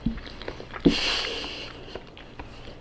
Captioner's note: nose exhale 💨